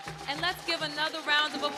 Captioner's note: people cheering